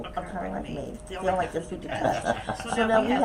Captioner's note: laughs